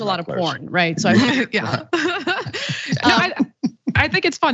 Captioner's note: laugh